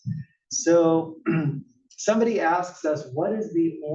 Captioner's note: cough